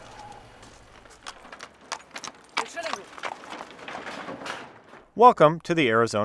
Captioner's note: horse hooves clack